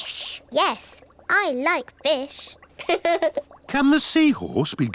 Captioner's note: laughs